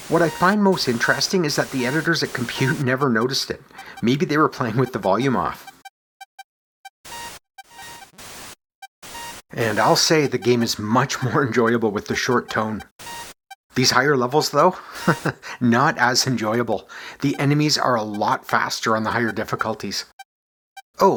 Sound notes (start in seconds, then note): 4.6 chuckles; 14.8 chuckles